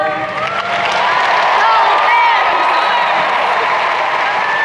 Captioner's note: crowd cheering